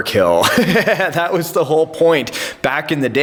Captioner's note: laughter